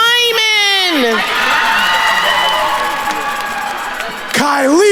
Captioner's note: attendees cheering and applauding